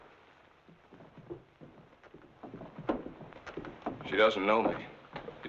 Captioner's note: footsteps thumping